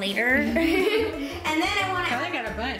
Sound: laughs

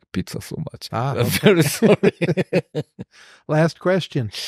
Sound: laughter

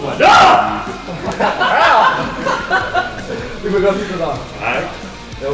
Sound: laughing

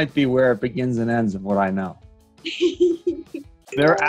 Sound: Katherine laughs

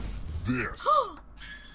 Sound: gasps

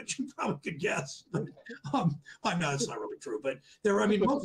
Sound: laughs

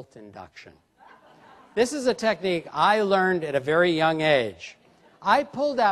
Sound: laughter

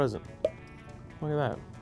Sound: popping

